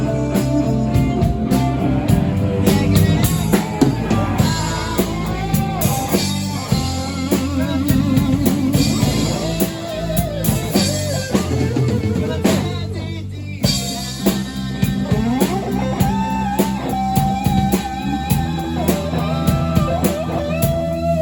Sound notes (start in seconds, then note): 19.3 laughs